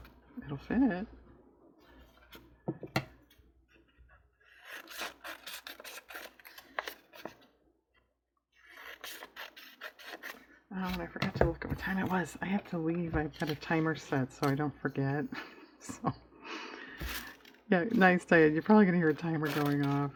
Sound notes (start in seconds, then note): 15.3 laughs